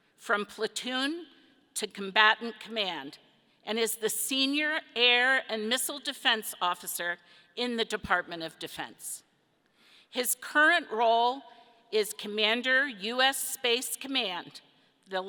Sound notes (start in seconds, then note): none